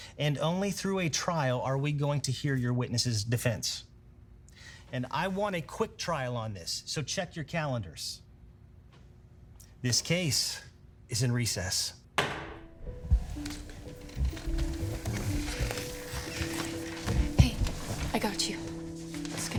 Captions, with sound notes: And only through a trial are we going to hear your witness's defense. And I want a quick trial on this, so check your calendars. This case is in recess. (gavel thumping) (soothing music) - It's okay. - Hey, I got you.